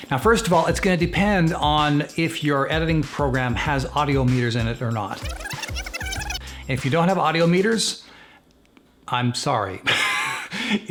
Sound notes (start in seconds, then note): 5.1 film rewinding; 10.1 laughs